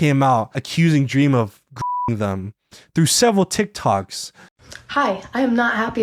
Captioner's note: beeps